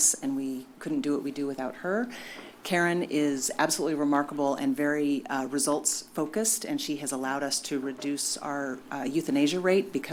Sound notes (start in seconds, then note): none